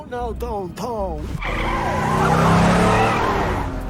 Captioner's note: tires screech